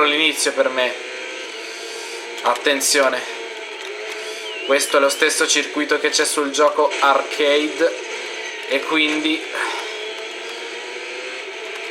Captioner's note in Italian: sospiro